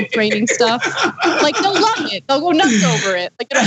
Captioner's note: laugh